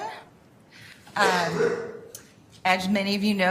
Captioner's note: cough